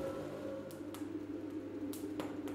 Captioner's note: quiet crackling of fire